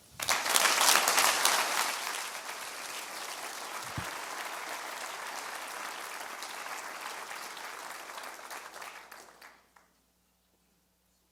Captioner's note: audience applause